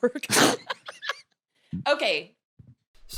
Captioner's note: laughs